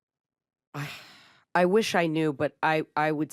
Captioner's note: sighs